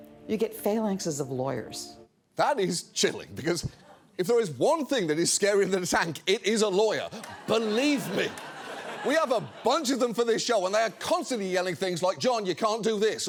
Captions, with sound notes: You get phalanxes of lawyers That is chilling, because if there is one thing that is scarier than a tank, it is a lawyer. -Believe me. -(SCATTERED LAUGHTER) We have a bunch of them for this show, and they are constantly yelling things like, "John, you can't do this,"